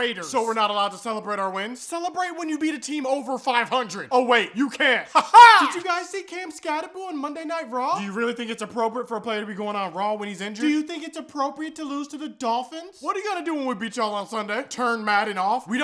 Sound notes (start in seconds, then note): 5.1 weird laughing